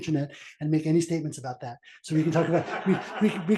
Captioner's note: laugh